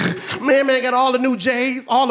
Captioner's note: snorts